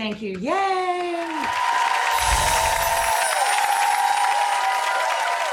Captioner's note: crowd cheering